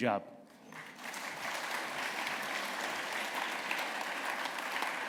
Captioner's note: applause